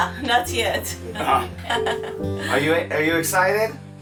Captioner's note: laughing